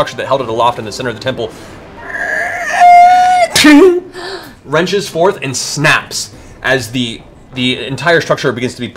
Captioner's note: metal creaking